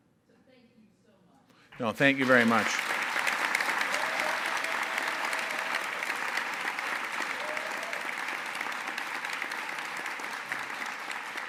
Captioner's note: auience applause